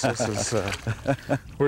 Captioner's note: laughter